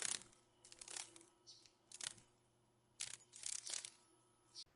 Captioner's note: sounds of a dragon fly